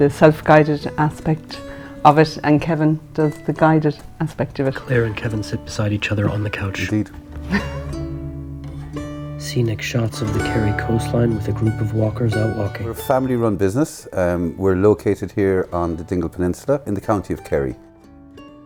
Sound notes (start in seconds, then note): 7.4 laughter